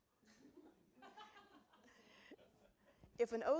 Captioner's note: audience laughing